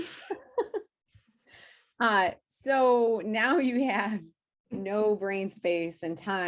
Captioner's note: laughing